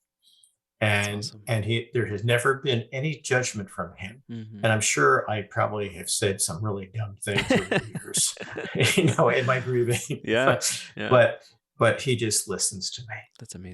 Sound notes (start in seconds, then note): 7.2 laughing